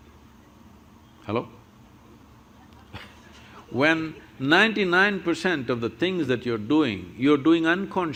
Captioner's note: laughs